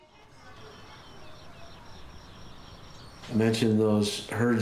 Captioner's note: insects chirping